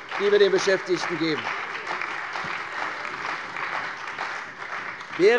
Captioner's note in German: Beifall bei der CDU und dem BÜNDNIS 90/DIE GRÜNEN